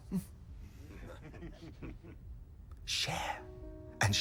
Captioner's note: men chuckling